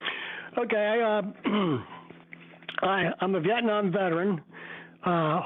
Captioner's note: cough